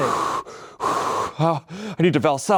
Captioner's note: breathing heavily